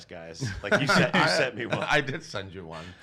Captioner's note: laughs